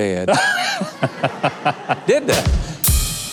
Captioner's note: audience laughing